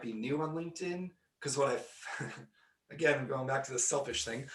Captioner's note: laughing